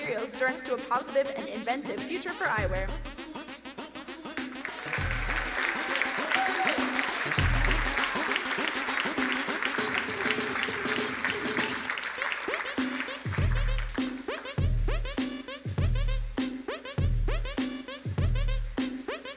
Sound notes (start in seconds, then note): 3.0 eccentric music; 5.2 crowd applauding; 12.2 fun upbeat music